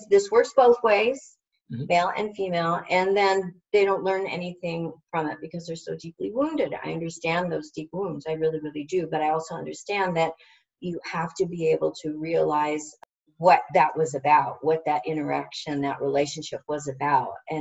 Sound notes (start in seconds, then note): none